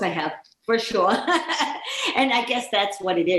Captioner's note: chuckling